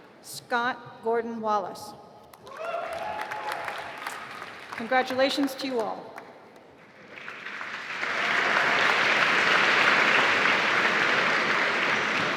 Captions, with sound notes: Scott Gordon Wallace (applause) Congratulations to you all. (applause)